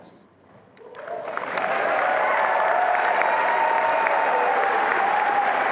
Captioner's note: attendees applauding and cheering